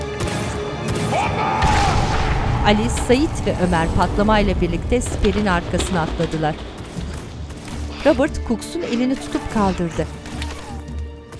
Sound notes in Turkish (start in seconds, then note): 1.0 Patlama sesi; 4.9 Müzik - Gerilim